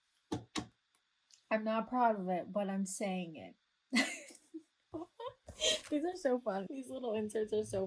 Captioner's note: laughs